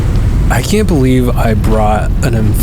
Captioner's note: dirt rustling; voiceover